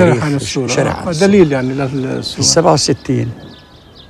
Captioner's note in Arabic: جار يتحدث لغة أجنبية; يتحدث لغة أجنبية